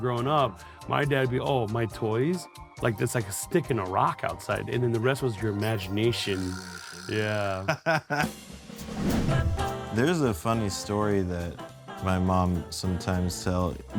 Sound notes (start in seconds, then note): 7.1 everyone chuckles; 8.1 playful upbeat music